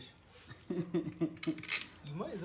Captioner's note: laughing